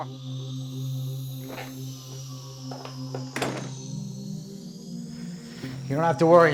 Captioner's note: sound of door opening